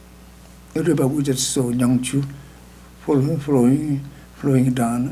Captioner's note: speaking tibetan